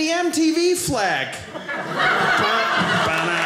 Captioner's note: audience laughing